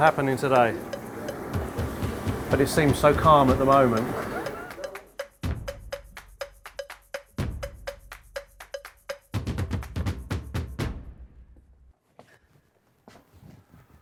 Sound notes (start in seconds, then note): 3.2 laughs